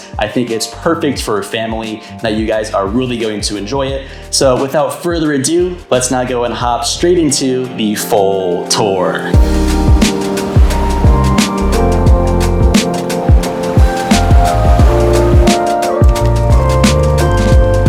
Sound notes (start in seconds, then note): 9.2 waves lapping; 9.4 upbeat music